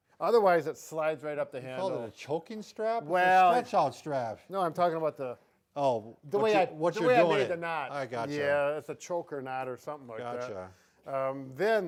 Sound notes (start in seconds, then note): none